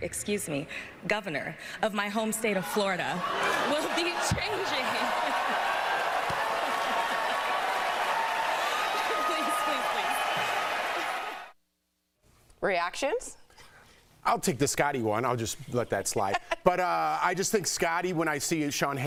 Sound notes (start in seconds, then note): 8.0 laughter; 8.4 applause